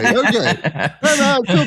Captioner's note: laugh